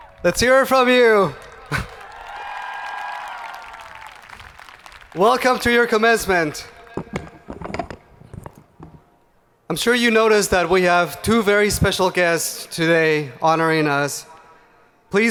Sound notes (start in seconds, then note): 2.3 hands clapping; 2.3 people cheering